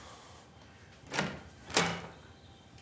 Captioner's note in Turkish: Nefes veriyor; Kapı açıldı